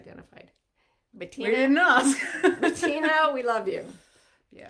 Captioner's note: laughing